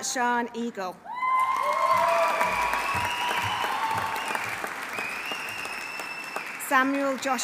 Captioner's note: audience cheering; audience applauding